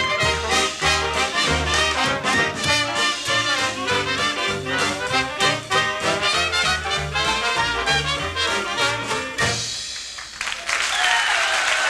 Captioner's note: applause